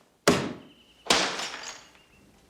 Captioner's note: glass shatters